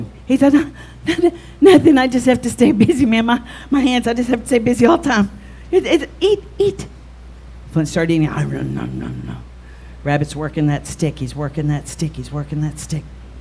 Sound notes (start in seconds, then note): 8.4 om nom nom nom nom